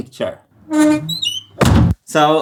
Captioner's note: shutters creaking